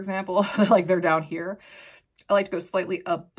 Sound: chuckles

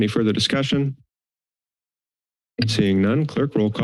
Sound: silence

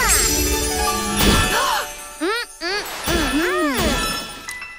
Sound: gasps

